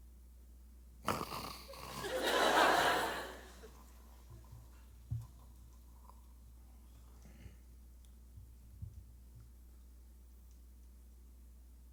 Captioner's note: snoring